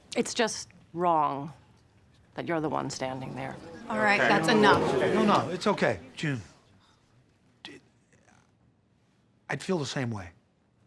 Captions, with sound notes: It's just wrong that you're the one standing there. - All tight. That's enough. (group murmuring) - No, no. It's okay. June... (stammers) I'd feel the same way.